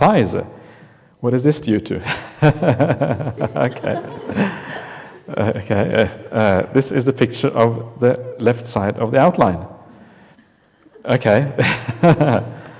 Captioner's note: laughter